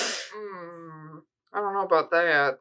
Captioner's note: disapproving DM noise